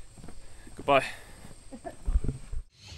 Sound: laughter

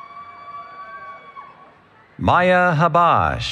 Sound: cheering

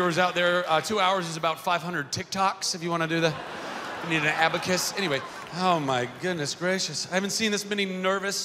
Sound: laughter

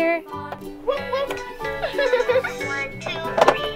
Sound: giggles

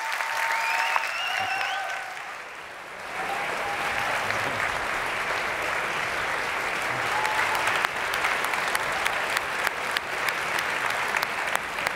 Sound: applause

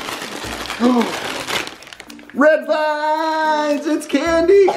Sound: gasp

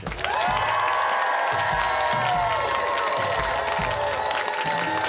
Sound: cheers and applause

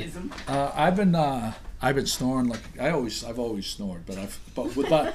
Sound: voiceover

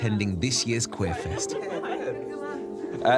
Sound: laughing

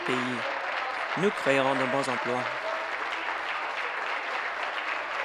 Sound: applause

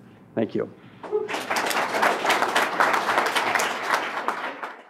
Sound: applause

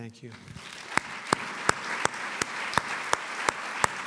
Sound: applause

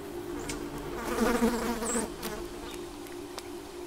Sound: fly buzzing

